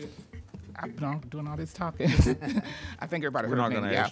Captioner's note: laughs